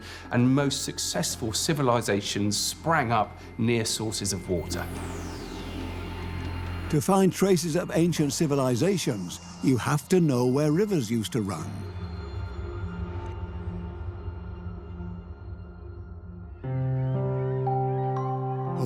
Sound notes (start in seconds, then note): 12.4 echoing tones; 16.6 piano music